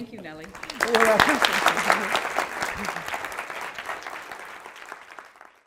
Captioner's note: applause